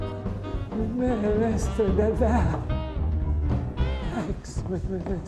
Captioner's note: stammering